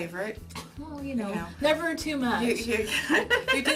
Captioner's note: laughs